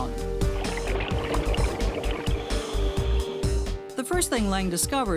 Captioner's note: water bubbling